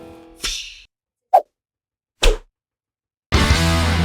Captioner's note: whipping noises; rock music